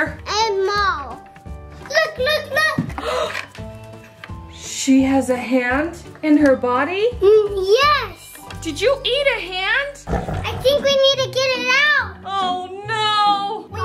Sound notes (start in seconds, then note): 10.0 animal growling noises